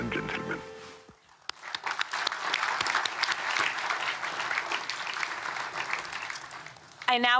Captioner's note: applause